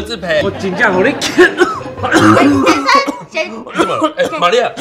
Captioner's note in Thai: ไอ